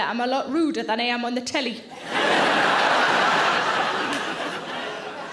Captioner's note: audience laughing